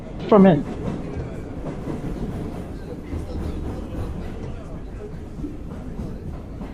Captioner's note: rhythmic sounds of train passing